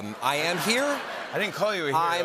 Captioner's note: laughter